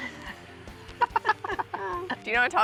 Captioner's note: both laugh